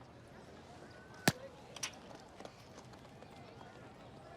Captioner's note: people chatter, birds twitter